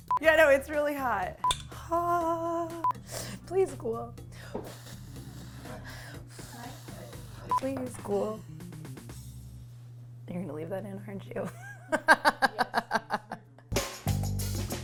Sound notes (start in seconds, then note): 6.1 blows air; 11.9 laughs; 13.8 bass music